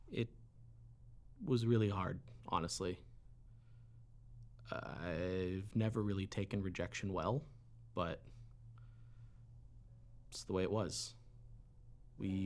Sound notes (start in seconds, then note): none